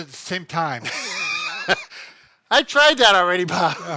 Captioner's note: laughing